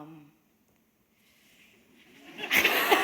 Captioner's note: laughter